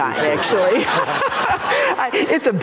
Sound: laughter

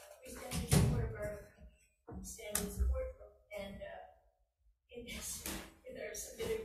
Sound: faintly speaking

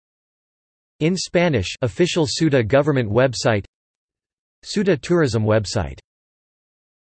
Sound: in Spanish

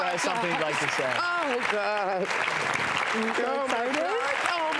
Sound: applauding

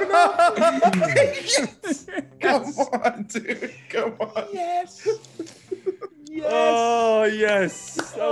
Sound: laugh

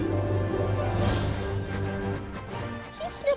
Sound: sniffing

